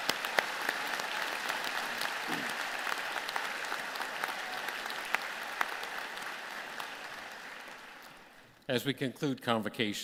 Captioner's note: applause